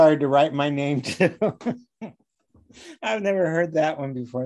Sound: laughing

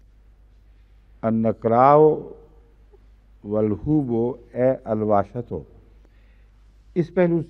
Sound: Arabic

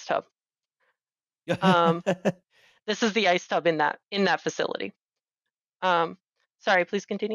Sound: laughs

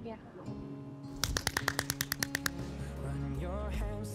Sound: Trixie claps

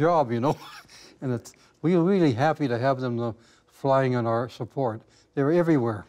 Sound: man chuckling

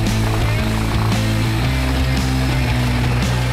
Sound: saw revving

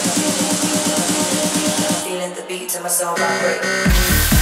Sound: voiceover; upbeat EDM music

